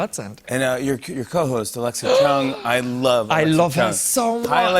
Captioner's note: gasps